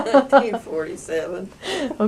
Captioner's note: laughter